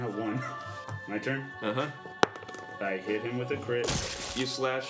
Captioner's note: rolls dice